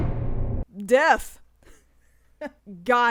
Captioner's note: chuckles